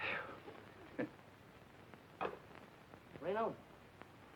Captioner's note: Red chuckling